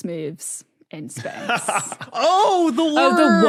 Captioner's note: laughs